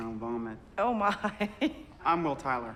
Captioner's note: laughs